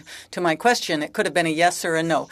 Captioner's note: speaking French